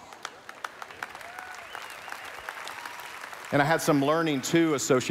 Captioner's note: applause